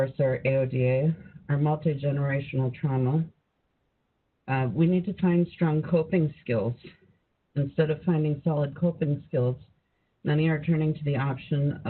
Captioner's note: speaking in native language